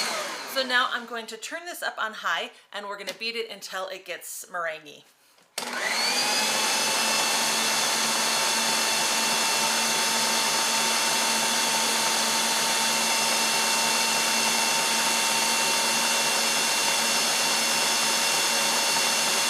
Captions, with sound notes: So now I'm going to turn this up on high and we're going to beat it until it gets meranguey. (electric mixer whirrs faster)